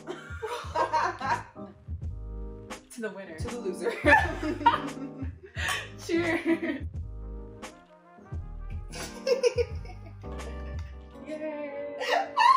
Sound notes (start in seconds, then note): 0.0 both laughing; 3.9 both laughing; 7.5 jazzy Lofi music; 9.0 Winnie giggling; 12.0 Winnie laughing delightedly